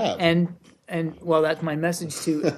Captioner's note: laughter